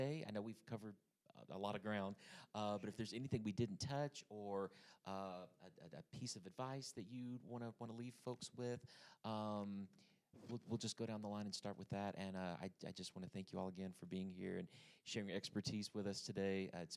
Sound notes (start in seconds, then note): none